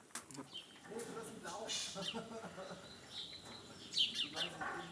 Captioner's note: birds chirping, snippets of conversation